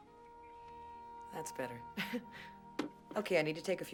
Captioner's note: laughs